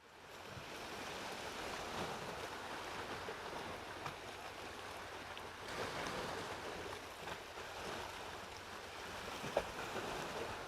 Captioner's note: waves crashing